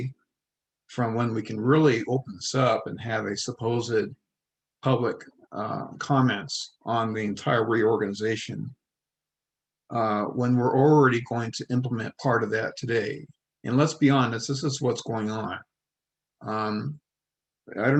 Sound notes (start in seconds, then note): none